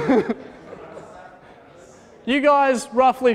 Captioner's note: laughter